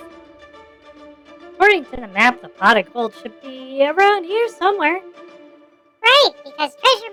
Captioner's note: excitedly